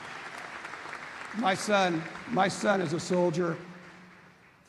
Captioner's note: applause